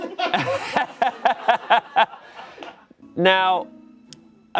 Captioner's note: laughing